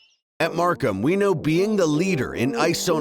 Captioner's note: voiceover